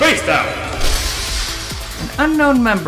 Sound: glass shattering

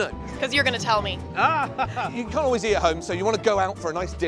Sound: laughter

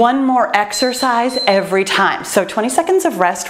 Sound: timer beeps

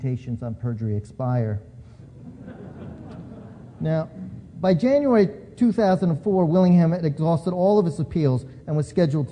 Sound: laughter

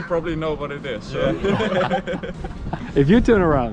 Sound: group laughing

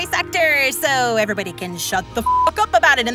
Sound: beep

